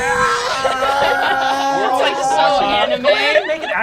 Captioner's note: screaming; laughter